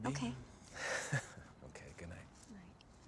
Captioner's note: chuckles